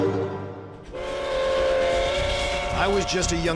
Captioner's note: train whistle